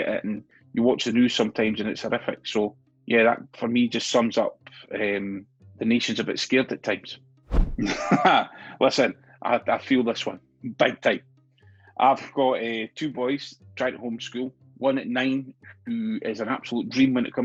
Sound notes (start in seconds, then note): 7.8 laughs